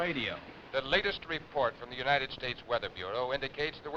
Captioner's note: radio Announcer